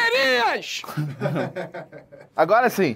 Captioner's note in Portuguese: risadas